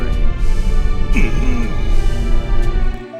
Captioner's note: frustrated grumble